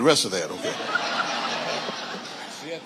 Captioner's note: audience laughing